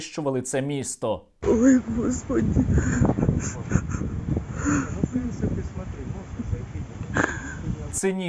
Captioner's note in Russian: плачет